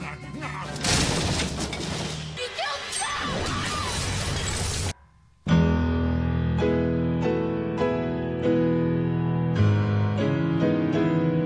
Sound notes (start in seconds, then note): 0.1 laughing maniacally; 0.8 loud crash; 4.1 loud crash